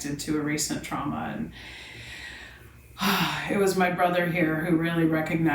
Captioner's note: sighs